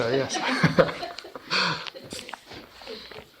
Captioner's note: laughing